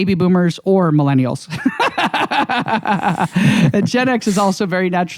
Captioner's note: laughs